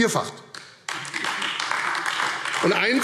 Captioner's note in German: Beifall AfD